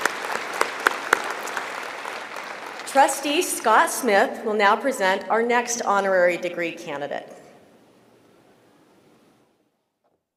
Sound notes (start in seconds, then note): 0.0 applause